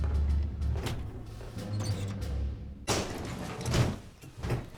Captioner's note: door closes